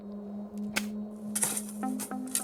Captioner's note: digging; spit